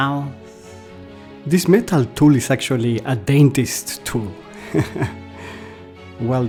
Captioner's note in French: rires